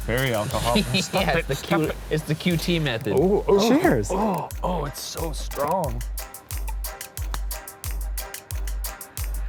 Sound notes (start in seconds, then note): 3.0 laughing; 6.5 soft eerie music